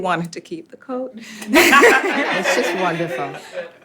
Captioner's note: all laughing